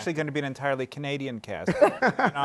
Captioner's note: laughter